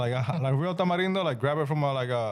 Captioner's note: speaking In Foreign Language